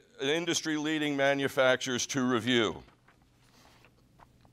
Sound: page turning

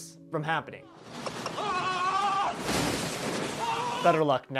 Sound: screams

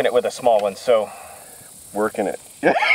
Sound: laughs

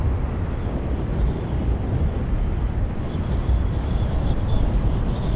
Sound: wind whistling

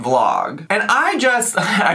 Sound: scoffs

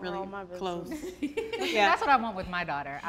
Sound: laughing

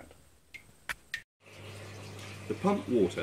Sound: water trickling

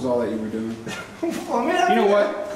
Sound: laughs

